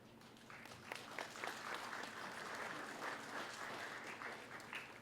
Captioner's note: applause